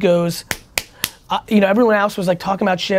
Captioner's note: clapping